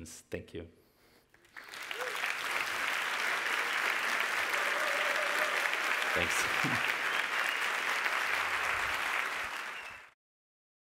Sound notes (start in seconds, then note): 1.4 audience applauds